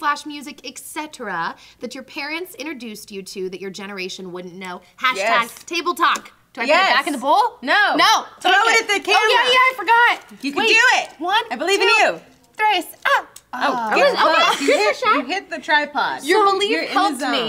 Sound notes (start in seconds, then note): 12.9 spanish